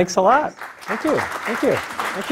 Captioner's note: applause